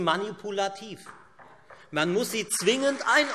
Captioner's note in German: Beifall Freie Demokraten, vereinzelt SPD und AfD